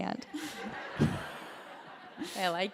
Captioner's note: laughter